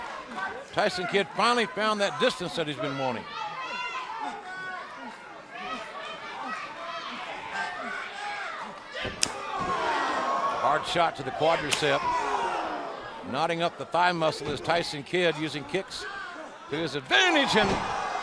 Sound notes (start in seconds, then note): 5.4 crowd chatter; 11.3 crowd cheering